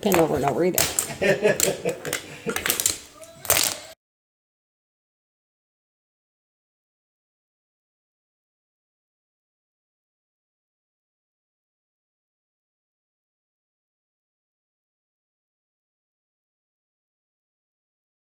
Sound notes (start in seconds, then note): 1.0 laughter